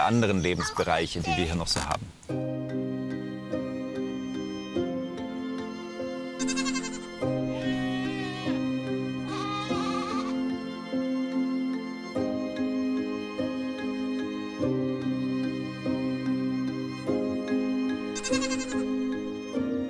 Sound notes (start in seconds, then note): 2.2 curious music; 6.4 goats bleat; 18.2 goats bleat